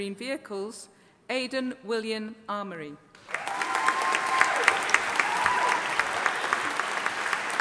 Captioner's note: audience applauding